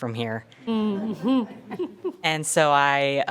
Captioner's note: board members laughing